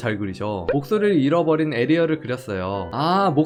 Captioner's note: voiceover